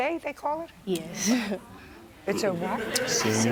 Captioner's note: laughs